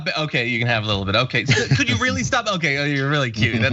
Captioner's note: laugh